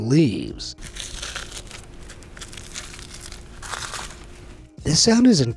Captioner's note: frozen leaves crackles